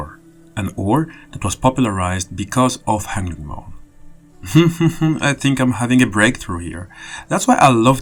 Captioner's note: laughs